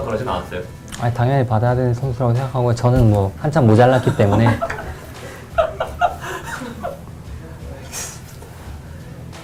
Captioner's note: laugh